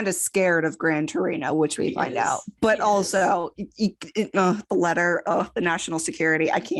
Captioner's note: stammers